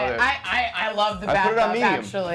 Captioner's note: murmurs